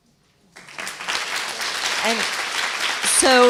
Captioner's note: applause